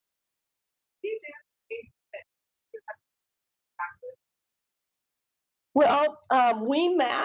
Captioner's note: woman speaking through warped and choppy audio